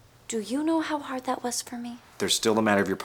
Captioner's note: none